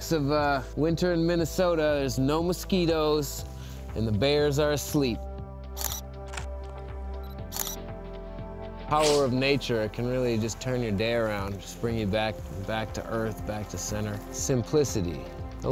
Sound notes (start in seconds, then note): 5.8 camera clicks